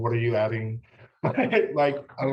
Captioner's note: laughs